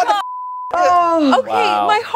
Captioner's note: beep